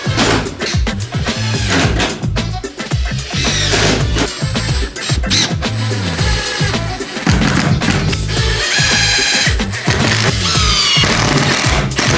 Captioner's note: drilling